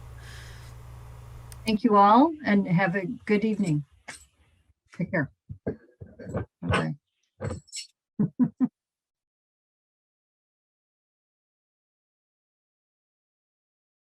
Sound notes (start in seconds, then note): 8.2 chuckles